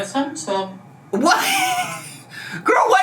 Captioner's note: laughs